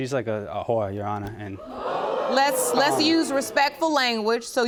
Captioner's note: audience gasps